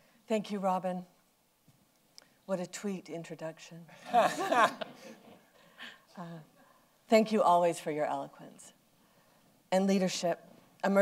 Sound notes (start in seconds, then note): 4.0 laughter